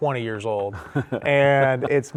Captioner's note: chuckles